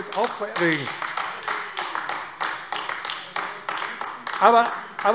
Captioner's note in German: Beifall AfD